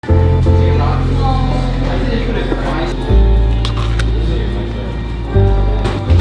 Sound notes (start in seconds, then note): 0.0 mellow piano; 2.9 diner noise